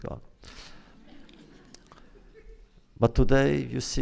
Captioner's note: laughter